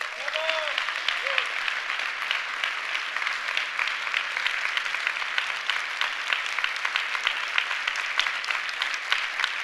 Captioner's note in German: Applaus